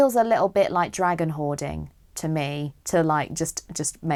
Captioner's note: none